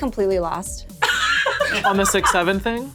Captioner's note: laughing